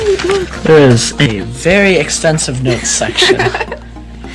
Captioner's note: laughter